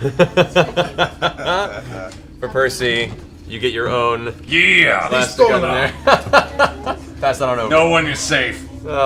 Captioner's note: laughs